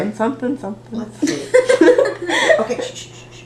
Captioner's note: laughter